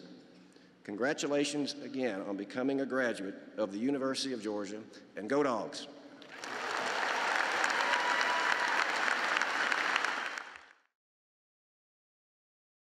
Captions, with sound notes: Congratulations again on becoming a graduate of the University of Georgia, and Go Dawgs. (cheering and applause)